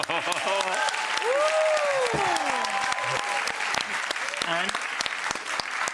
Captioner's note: audience applauds and cheers